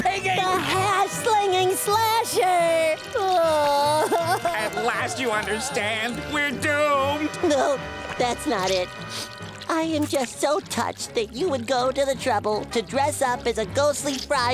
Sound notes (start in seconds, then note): 3.0 crying